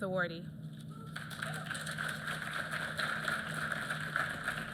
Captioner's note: applause